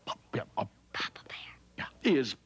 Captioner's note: whispering